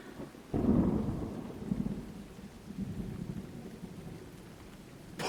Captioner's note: thunder rumbling